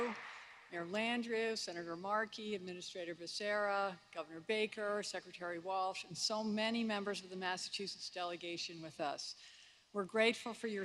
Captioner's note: applause